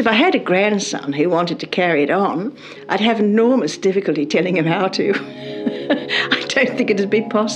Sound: laughs

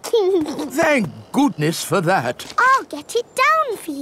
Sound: giggles

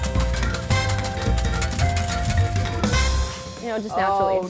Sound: mellow music; coins clinking

